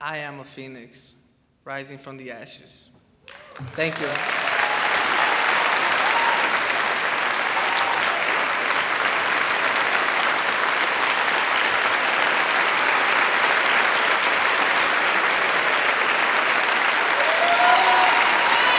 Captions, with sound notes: I am a Phoenix rising from the ashes. Thank you. (crowd applauds and cheers)